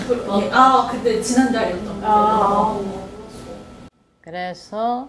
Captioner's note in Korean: 아~